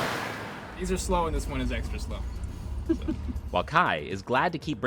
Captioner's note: laughs